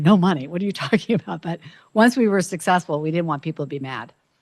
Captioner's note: chuckles